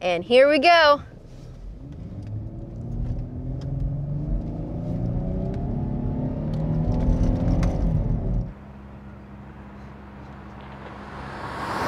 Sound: car sound

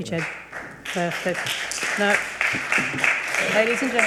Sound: audience applauds

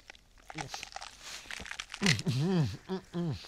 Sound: struggling to swallow coin

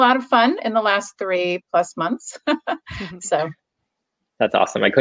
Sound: laughs

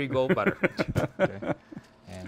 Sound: laughing

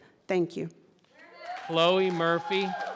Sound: audience cheering

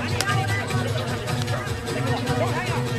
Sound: speaking foreign language

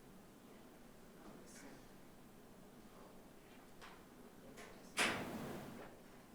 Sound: people chattering faintly

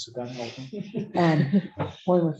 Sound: laughter

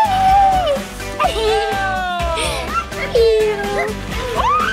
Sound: laughing

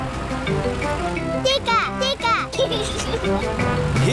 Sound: giggles

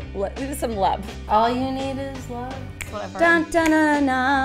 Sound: snapping

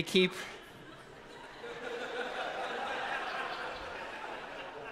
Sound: congregation laughs

